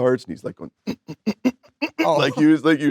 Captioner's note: grunting